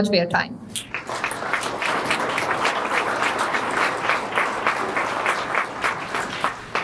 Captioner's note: applause